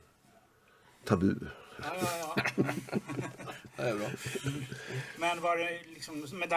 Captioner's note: laugh